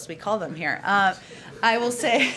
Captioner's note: laughter